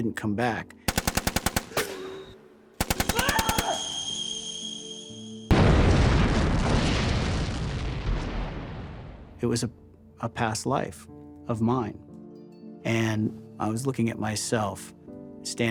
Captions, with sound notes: [gun fire] [screams] [explosion] It was a-- a past life of mine. And I was looking at myself, standing there